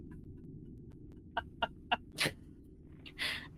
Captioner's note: laughs